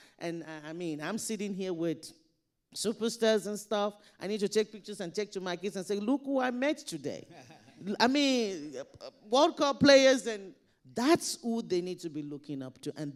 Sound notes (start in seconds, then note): 7.2 panelists laughing